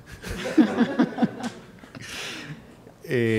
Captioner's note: laughs